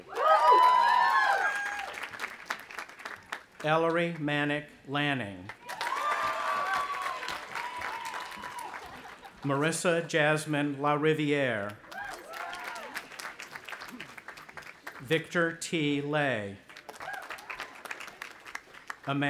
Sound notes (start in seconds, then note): 0.0 audience applauding and cheering; 5.5 audience applauding and cheering; 11.8 audience applauding and cheering; 16.6 audience applauding